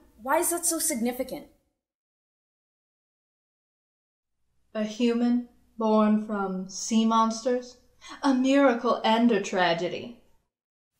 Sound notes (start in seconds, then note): none